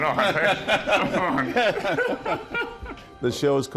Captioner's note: laughing